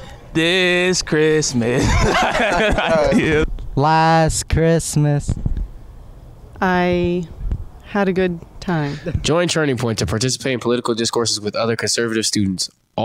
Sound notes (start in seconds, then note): 0.2 singing; 1.6 laughing; 3.4 singing; 8.2 laughing